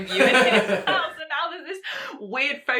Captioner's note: man laughs